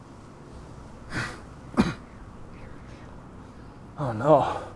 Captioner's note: Carling coughs